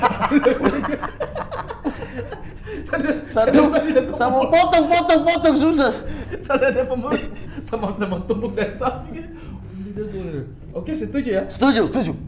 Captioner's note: laughing